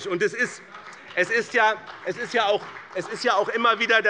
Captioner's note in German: Beifall bei dem BÜNDNIS 90/DIE GRÜNEN und der CDU